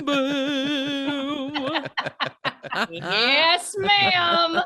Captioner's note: everyone laughing